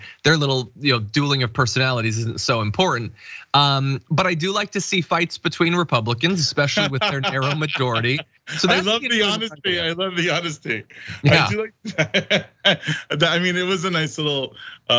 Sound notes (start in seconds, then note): 10.8 laugh